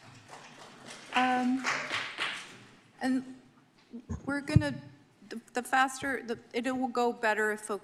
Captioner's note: clapping